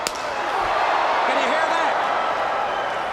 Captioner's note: crowd cheering